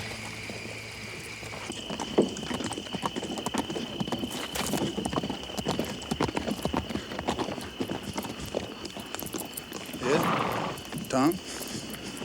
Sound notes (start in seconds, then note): 1.9 crickets chirp; 1.9 hooves clop